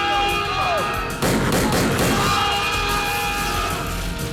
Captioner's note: gun fires